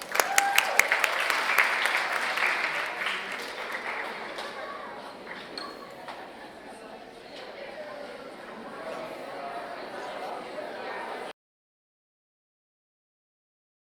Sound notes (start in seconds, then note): 0.0 audience applauds and cheers; 7.0 audience chatters